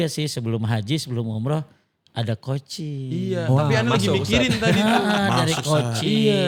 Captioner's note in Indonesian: tertawa